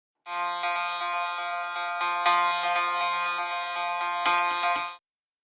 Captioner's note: alarm